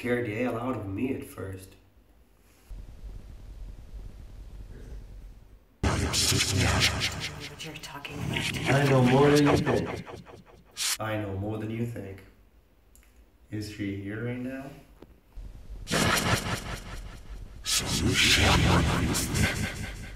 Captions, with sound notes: scared the hell out of me, at first. (distorted voice in foreign language) - I don't know what you're talking about. - Ah, don't worry. I know more than you think. Is she here right now? (distorted voice in foreign language)